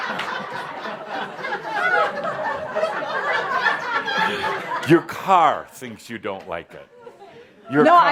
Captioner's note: laughter